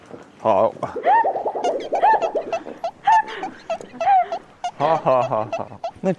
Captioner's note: honk, honk, honk